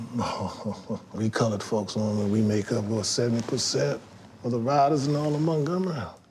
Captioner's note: chuckles